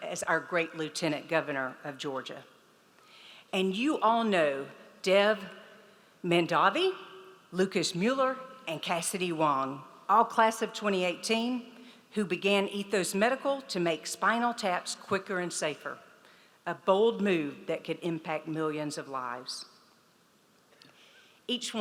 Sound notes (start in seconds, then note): none